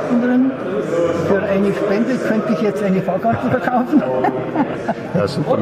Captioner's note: laughter